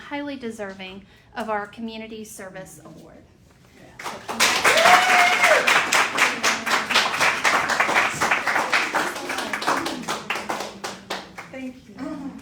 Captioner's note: cheering and applause